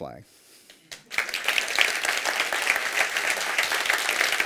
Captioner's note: applause